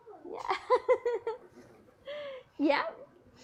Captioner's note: laughs